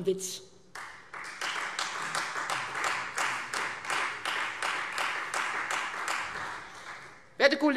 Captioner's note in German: Beifall Freie Demokraten